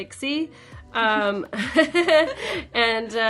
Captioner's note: chuckling